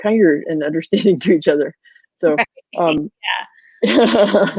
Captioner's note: laughs